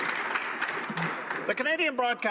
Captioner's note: applause